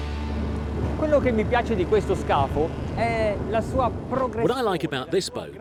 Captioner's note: speaking foreign language